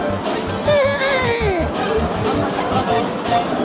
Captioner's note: neighing